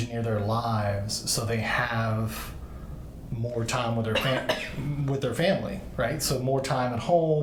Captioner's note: coughs